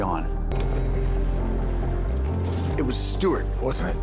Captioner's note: elevator bell rings